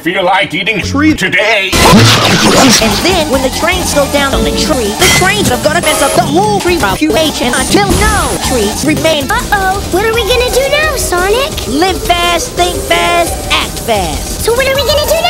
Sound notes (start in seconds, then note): 1.8 chomp